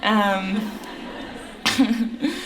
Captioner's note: laughter